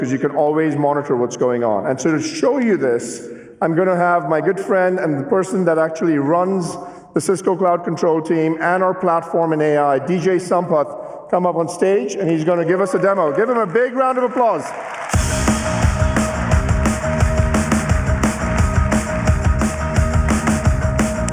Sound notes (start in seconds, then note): 6.3 applause